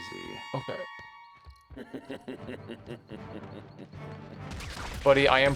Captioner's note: sniper guy laughs